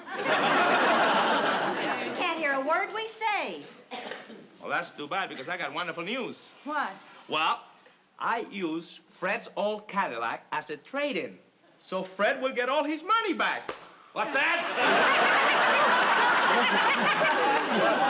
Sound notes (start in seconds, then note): 0.0 audience laughing; 13.6 claps; 14.3 audience laughing